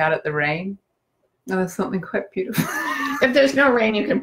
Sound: laughs

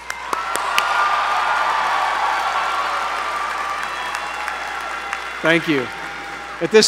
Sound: applause

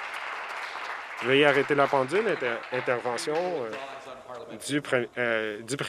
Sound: some Applause

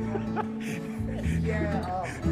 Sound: laughs

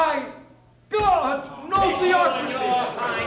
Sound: confused shouting

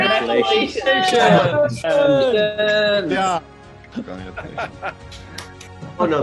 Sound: applause

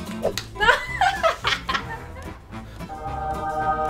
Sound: laughter

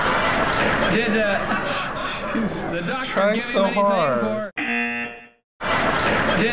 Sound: buzzer

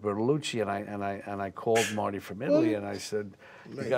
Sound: scoffs

